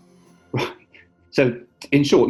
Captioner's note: chuckles